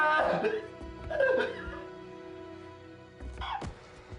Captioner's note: screaming